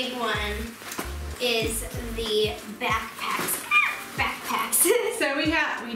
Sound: laughing

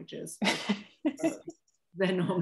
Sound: laughter

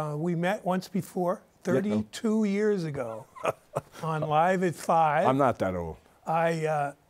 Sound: laughs

